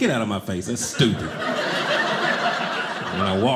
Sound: audience laughing

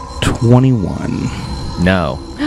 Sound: magical sound effect

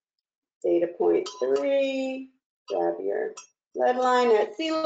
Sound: clanging

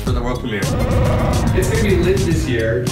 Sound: Chewbacca sounds

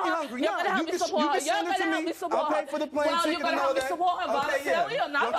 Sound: yelling and arguing

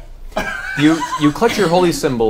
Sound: all laugh

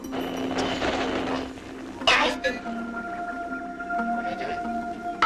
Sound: Kiddiecom: Static

